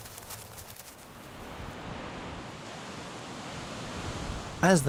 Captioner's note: wind blowing